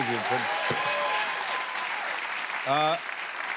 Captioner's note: cheers and applause